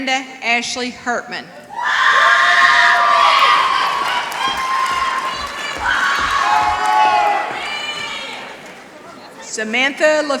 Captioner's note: applause